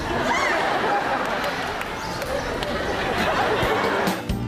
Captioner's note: audience laughing